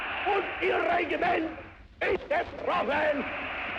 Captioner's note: giving impassioned speech